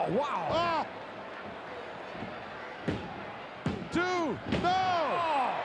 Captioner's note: referee pounding mat